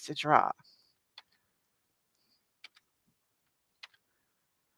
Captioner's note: keyboard clacking